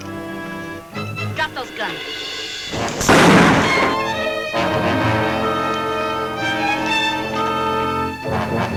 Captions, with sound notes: - Drop those guns. (gun bangs) (tense music)